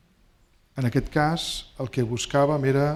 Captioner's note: speaking spanish